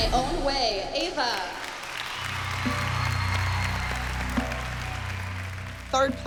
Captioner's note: cheering